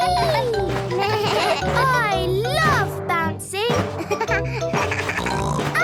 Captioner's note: giggles; bleating; giggles, snorts